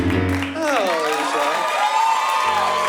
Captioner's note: sighs; applause